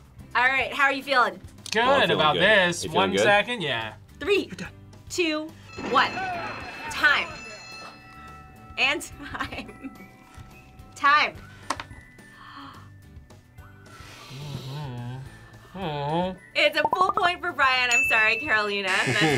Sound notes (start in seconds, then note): 9.8 laughs; 12.2 gasps